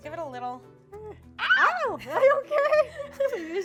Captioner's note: both screeches